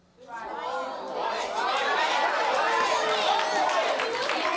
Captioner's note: audience jeering